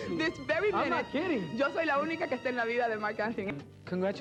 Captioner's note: speaking Spanish